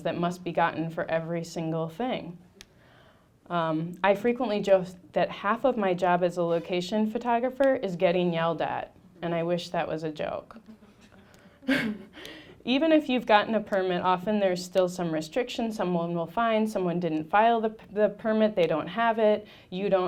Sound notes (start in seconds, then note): 10.5 laughing; 12.6 audience laughing